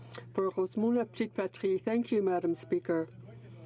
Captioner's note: speaking French